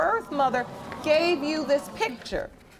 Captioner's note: stammering